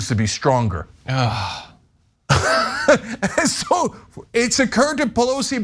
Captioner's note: laugh